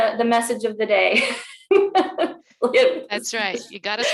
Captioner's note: chuckles